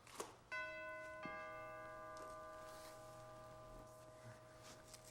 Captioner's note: doorbell chimes